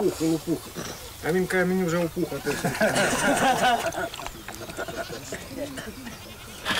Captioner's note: laughter